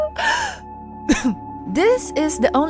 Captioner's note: ahem